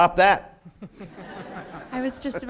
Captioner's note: audience laughs